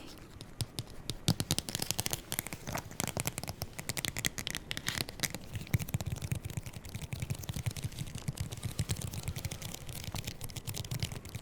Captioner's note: nail and finger tip tapping and scratching